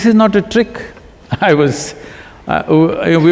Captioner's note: laughs